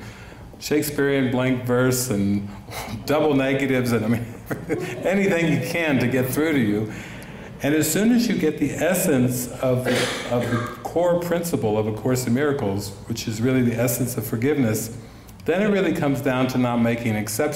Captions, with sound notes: Shakespearean blank verse and double negatives . I mean (laughs) anything you can to get through to you and as soon as you get the essence of the core principle of A Course in Miracles Which is really the essence of forgiveness then it really comes down to not making exceptions